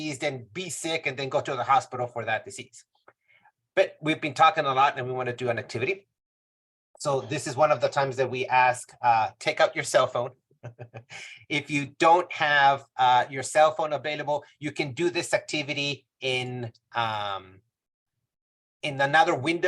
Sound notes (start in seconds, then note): 10.6 chuckles